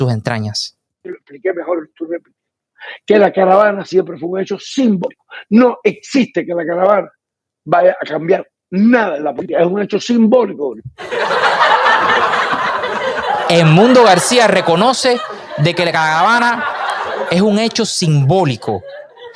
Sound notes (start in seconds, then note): 7.3 laughs